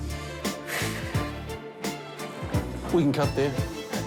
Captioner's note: heavy sigh